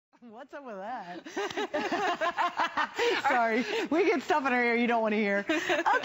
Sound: laughter

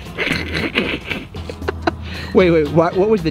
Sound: Rocky laughs; upbeat music

